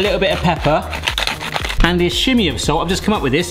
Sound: pepper grinds

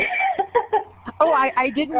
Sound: laughing

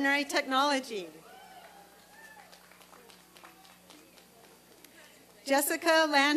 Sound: applause and cheering

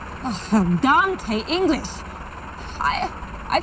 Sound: speaks German

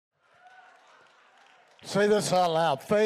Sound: congregation cheering

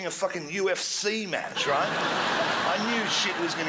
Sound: crowd laughs

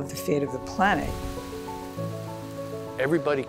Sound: heavy rain falling

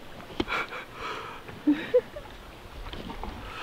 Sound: laughing

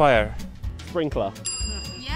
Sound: ding

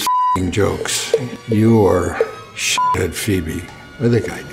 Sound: beep; beep

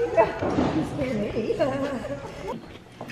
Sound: laughter

